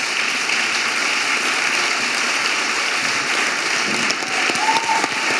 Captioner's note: audience applauding and cheering